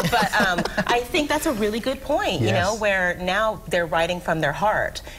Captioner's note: laughter